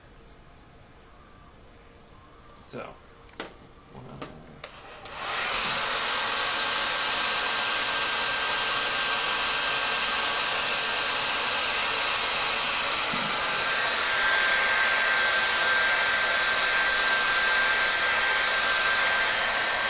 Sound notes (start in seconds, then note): 4.6 hair dryer noise